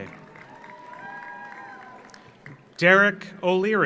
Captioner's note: audience cheers; audience applauds